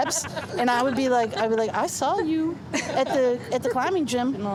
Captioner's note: everyone laughs